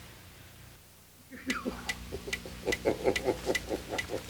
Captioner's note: laughing